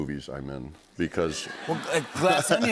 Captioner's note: laughter